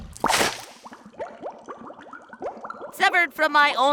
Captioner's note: bubbling; squirt